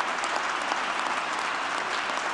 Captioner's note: applause